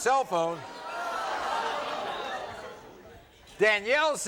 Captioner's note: audience groaning